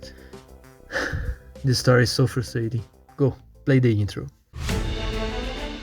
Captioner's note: sigh